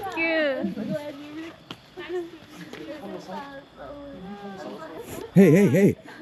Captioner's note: kept crying